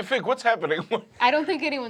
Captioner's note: laughs